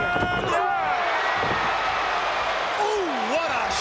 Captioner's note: audience cheering